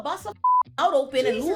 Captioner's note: beep